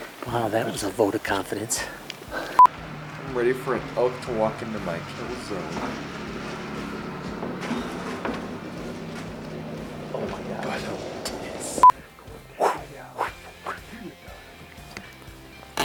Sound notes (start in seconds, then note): 2.6 beep; 11.8 beep; 12.4 makes wooshing sounds